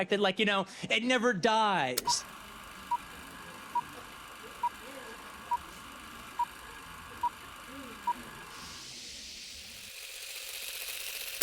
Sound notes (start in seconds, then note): 1.9 film reel whirring; 2.0 film reel beeping